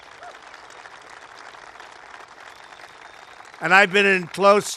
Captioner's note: applause